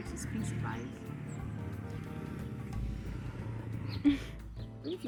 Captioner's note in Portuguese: barulho de moto